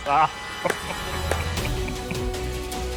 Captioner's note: clapping